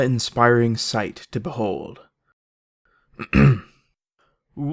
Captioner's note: ahem